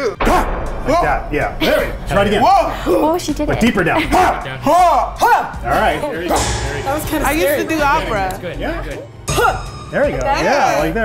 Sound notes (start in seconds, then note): 0.2 grunting; 4.2 yelling; 9.4 grunting